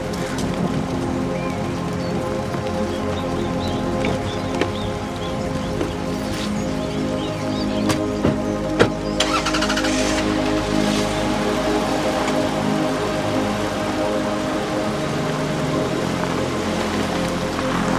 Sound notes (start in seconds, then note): 8.4 car doors close; 9.1 engines start